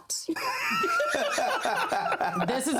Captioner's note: laughter